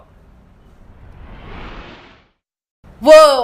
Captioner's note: zooming sound